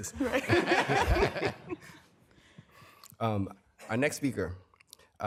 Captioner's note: laughter